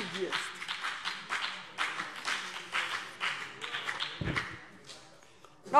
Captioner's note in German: Beifall BÜNDNIS 90/DIE GRÜNEN